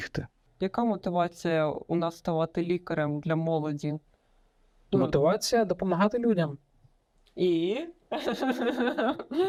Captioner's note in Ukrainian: сміх